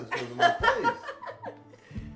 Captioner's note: laughter